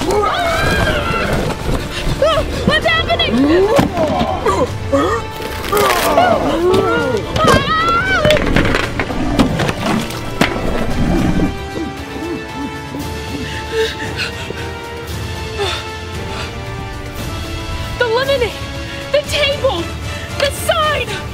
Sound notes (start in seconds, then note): 0.1 roaring; 3.5 animal grunting; 5.7 screaming; 11.3 distant grunting; 13.8 heavy breathing; 14.8 dramatic orchestral music; 21.1 suspenseful music